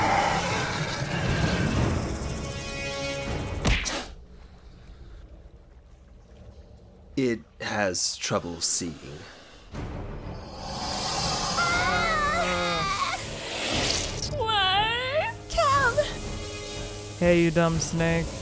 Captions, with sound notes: (head smacking) It has trouble seeing. (serpent hissing) (girls yelling) - Why? - Kim! - Hey, you dumb snake.